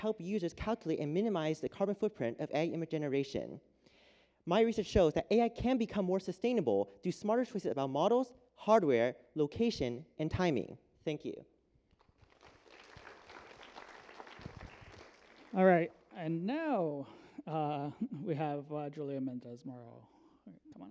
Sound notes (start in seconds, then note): 11.9 applause